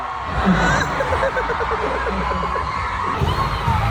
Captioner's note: laughs